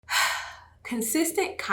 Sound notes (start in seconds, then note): 0.1 sighs